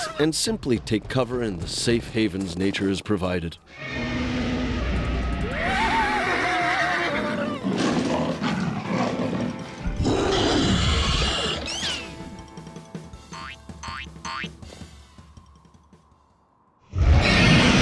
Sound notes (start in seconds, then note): 3.7 creature roaring; 5.2 screaming; 7.3 growling; 10.0 creature roars; 16.9 roars